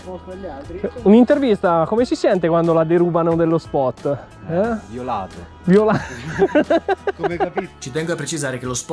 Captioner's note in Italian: risate